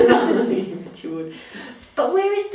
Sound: laughs

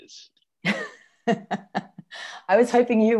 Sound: laughs

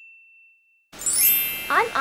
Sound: chime

